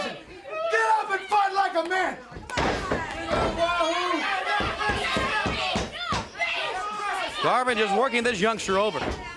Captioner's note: crowd chatter